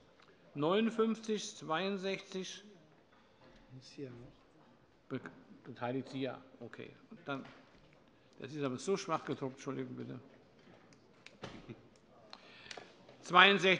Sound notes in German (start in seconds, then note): none